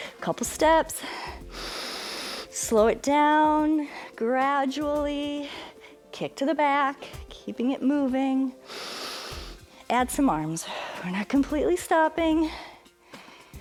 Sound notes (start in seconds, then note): 1.0 inhales; 8.6 inhales; 8.6 exhales